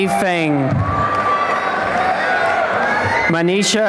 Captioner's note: applause and cheering